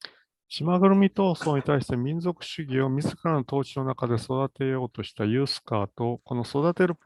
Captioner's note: speaks in Japanese